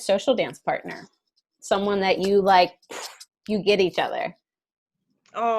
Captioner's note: poof